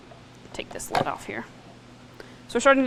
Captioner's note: lid clacks